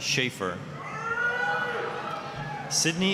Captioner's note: applause, cheering